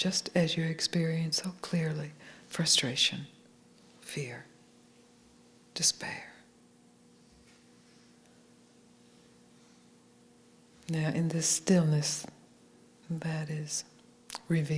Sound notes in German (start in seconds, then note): none